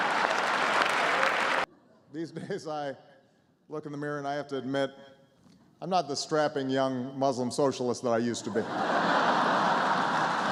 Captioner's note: laughter